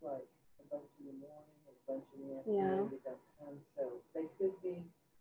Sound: speaking faintly

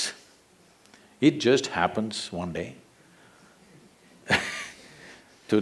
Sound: laughs

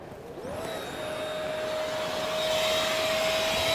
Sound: whirring

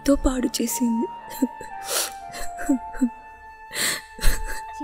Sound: crying

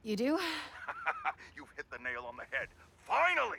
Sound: laughs

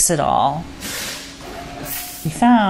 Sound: machines toil away in an autobody repair shop

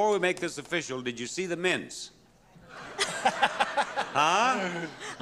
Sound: laughing

